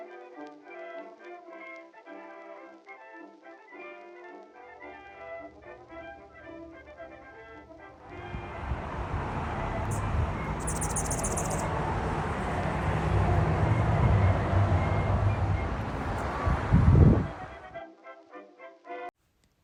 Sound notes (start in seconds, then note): 8.6 light jazz music continues; 11.4 hummingbird chirping; 11.4 wind whistles